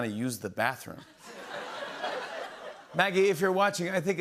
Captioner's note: laughter